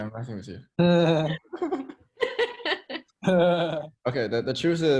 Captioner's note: teammates laughing